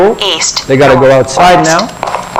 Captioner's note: electronic sound effect